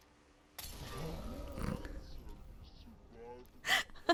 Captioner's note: snort; laughing